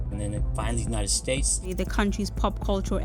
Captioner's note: soundbite of archived recording